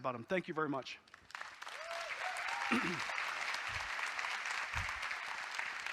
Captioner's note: audience applauding